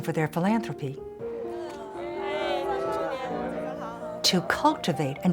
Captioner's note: chatter